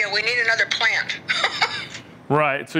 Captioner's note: laughs